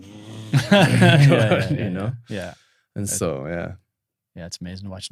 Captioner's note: both laughing